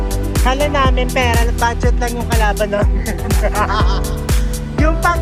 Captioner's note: laughing